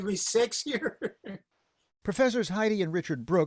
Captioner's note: laughter